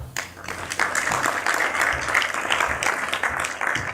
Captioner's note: applause